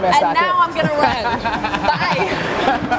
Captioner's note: laughs